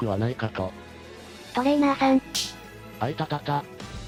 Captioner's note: smack